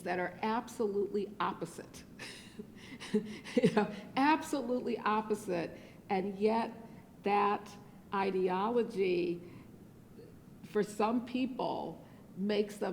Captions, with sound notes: that are absolutely opposite-- [LAUGHS] absolutely opposite and yet that ideology for some people makes